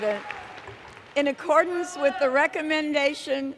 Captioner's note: cheers and Applause